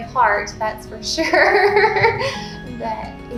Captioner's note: laughing